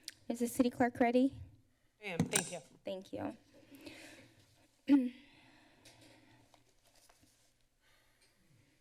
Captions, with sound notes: Is the city clerk ready? -I am. Thank you. [feedback sound] -Thank you. [clears throat]